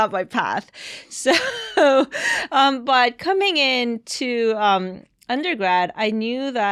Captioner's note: chuckles